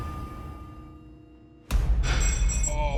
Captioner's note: clinking